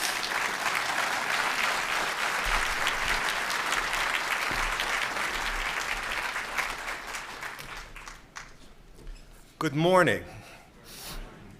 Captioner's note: applause